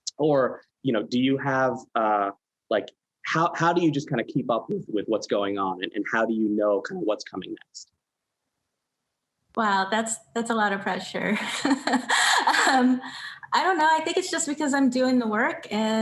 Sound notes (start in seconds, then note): 11.4 laughs